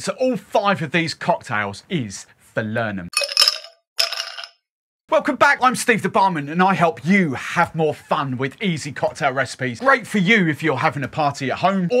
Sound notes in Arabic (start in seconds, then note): 3.2 جليد يخشخش في الزجاج